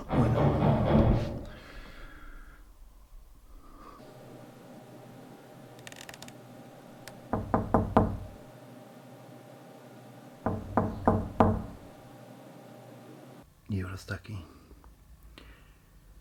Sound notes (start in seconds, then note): 0.0 loud thuds in the distance; 5.8 creaking footsteps; 7.3 there's a knock at the door